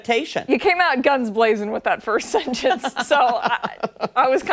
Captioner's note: laughter